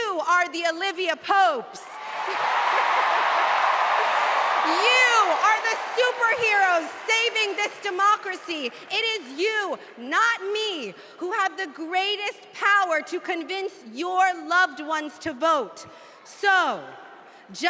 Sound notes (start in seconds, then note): 8.0 cheers and applause